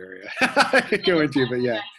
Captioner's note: laughs